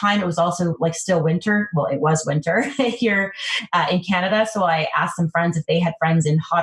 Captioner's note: laughs